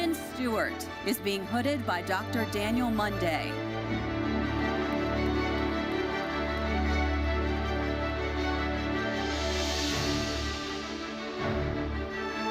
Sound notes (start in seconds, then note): 5.2 audience applauding; 8.0 bright uplifting music continues